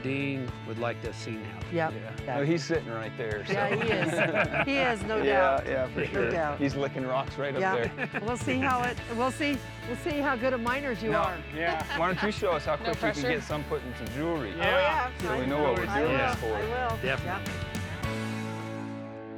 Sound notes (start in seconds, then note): 3.6 everybody chuckling